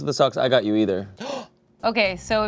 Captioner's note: gasps